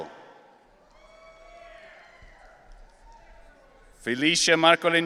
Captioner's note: audience cheering